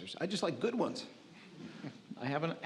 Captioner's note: audience laughs